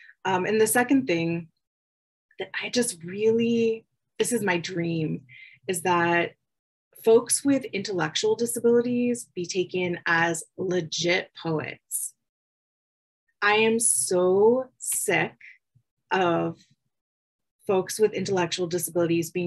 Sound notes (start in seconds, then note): none